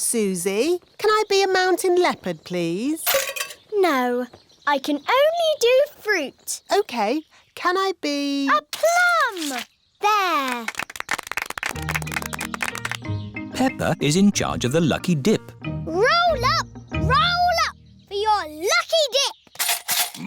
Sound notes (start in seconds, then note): 10.4 applause